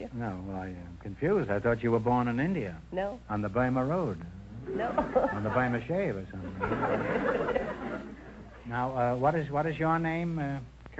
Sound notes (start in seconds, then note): 4.7 chuckles; 6.4 audience laughter